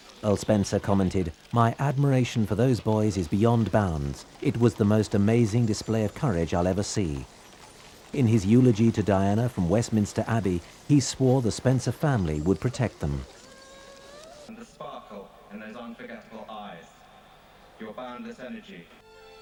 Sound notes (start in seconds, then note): 13.2 people sobbing